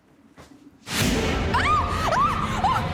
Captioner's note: screaming